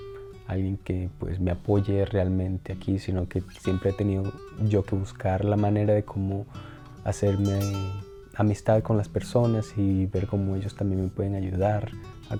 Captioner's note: continues speaking Spanish